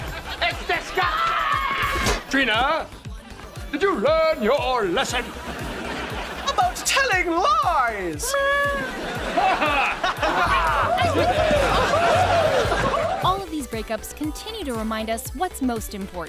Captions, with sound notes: It’s disgusting! [screaming] Trina? Did you learn your lesson? - About telling lies? - Meow. [laughing] All of these breakups continue to remind us what’s most important.